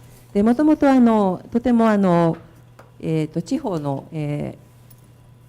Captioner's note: speaking foreign language